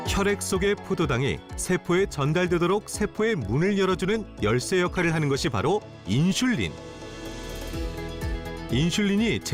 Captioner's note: voiceover